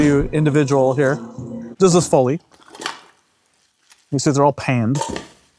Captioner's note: medical tools clacking